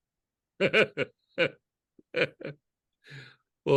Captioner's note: laughs